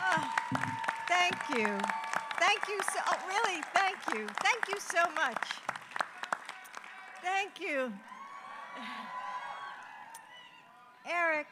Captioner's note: applause